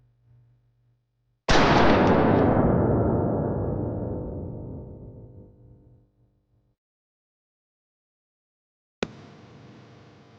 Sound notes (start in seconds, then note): 1.5 gun firing; 1.8 dramatic music